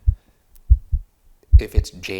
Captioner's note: heart beating